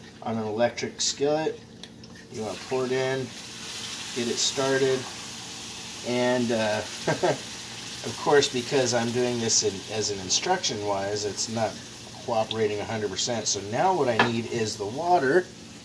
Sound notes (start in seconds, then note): 7.1 laughs